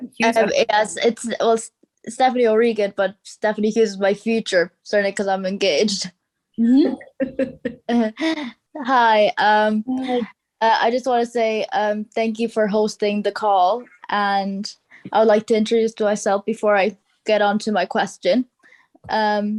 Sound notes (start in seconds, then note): 6.8 laughs